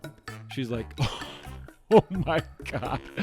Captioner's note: barely able to speak through laughter